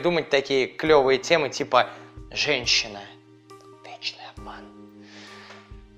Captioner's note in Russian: шепотом